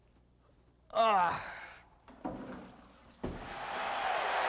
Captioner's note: Eric groans; crowd cheering